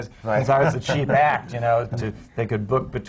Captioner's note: laughs